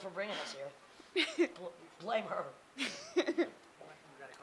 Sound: laughing

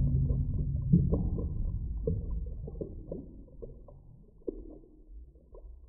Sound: bubbles and gurgling under water

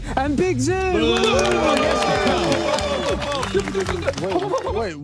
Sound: everyone cheering; booing

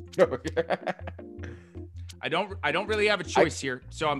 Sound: laugh

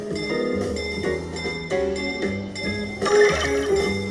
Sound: bell dings

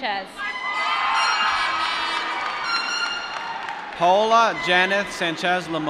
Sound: applause

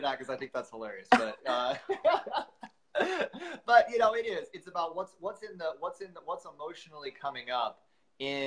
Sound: chuckles

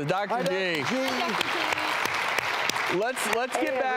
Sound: audience clapping

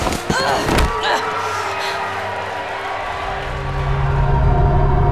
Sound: groaning; audience cheering

